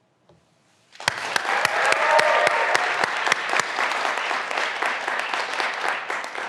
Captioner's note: graduands cheering and applauding